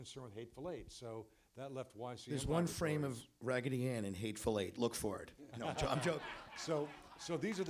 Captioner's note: laughter